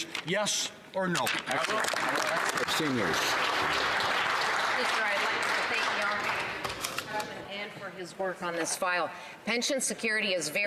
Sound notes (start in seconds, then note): 7.1 some Applause